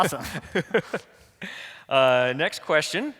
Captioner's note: laughing